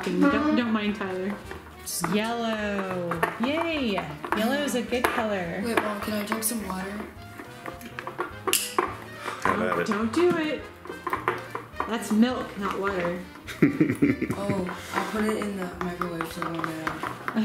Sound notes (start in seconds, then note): 13.4 laughing